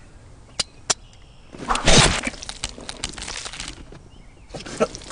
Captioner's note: metallic whooshing